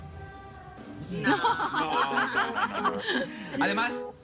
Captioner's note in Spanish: Risas